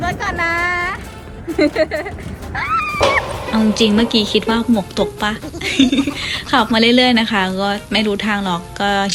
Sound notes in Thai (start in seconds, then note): 2.6 เสียงกรี๊ด